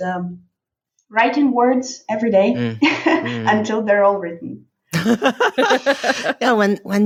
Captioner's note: laughing